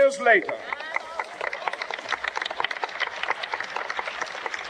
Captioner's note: audience clapping